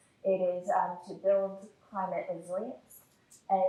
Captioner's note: none